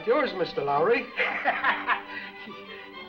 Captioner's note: laughs; upbeat music